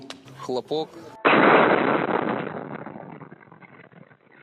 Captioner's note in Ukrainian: звук вибуху